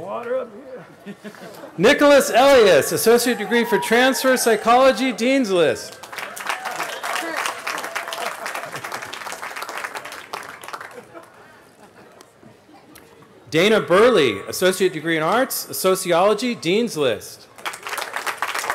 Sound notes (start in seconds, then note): 1.0 laughter; 9.5 cheering